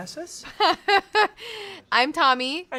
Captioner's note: laughs